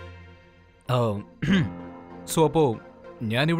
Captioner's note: Clearing throat